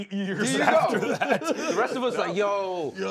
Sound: laughter

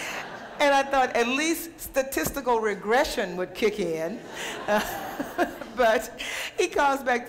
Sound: laughter; laughter

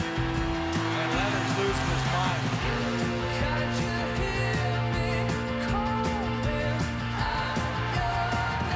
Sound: horn sounding; applause and cheering

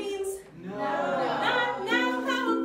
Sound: crowd

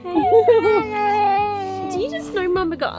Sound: babbling

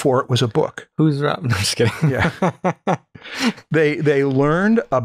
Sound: laughter

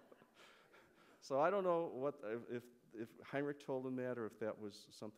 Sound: laughter

